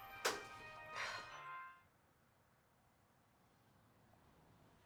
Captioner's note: woman sighs